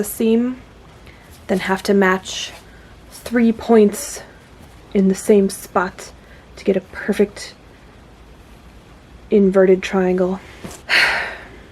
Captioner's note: frustrated sigh